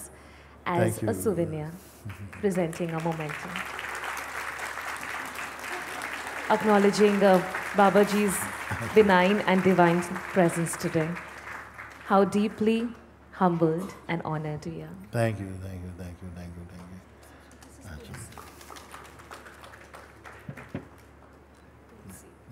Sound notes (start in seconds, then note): 3.1 Applaus